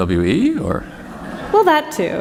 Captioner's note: laughter